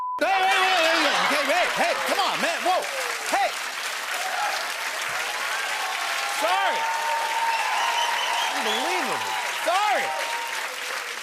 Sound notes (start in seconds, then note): 4.0 cheers and applause